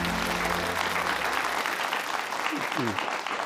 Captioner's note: applause